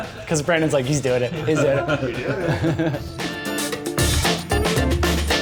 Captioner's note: laughs